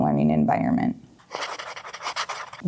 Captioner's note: pen writing on paper